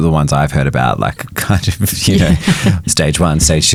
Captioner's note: chuckling